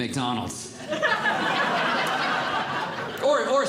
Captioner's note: audience Laughing